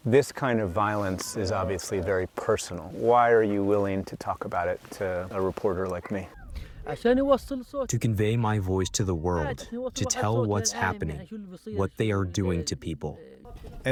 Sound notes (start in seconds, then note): 8.0 through translator